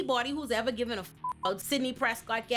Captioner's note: beep